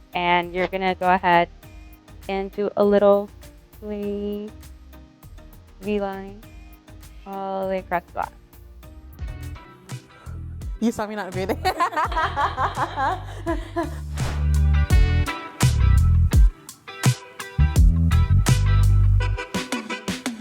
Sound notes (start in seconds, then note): 5.3 upbeat electronic music; 9.2 upbeat hip-hop music; 11.4 people laughing; 14.2 upbeat hip-hop music